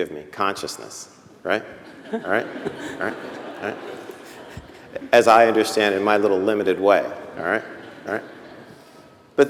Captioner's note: laughter